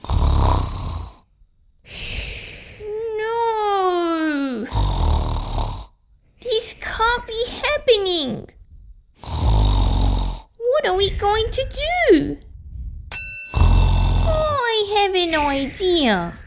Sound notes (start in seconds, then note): 0.0 snoring; 4.6 snoring!; 9.2 snoring!; 13.1 ding!; 13.5 snoring!